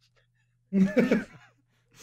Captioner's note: laughter